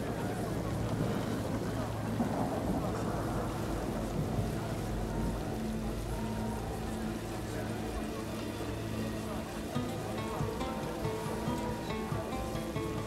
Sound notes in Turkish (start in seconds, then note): 1.7 Rüzgâr sesi